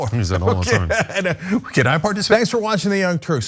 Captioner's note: laugh